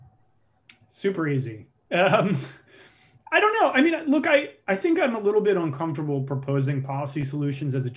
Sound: laughs

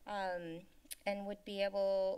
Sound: clicks Tongue

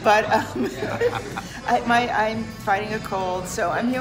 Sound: laughs

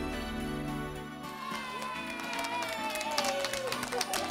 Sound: cheering and clapping

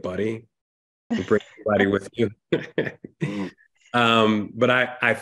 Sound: laughs

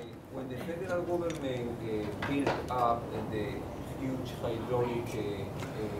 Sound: speaking away from mike

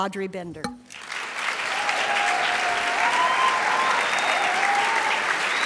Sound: crowd applauds and cheers

